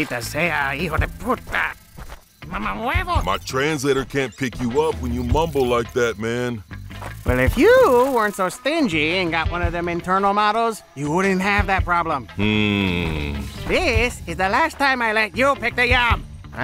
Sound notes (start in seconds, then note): 12.4 grumbling